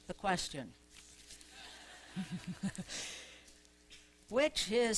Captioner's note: laughter